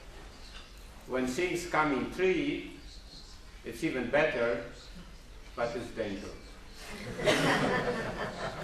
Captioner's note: laughter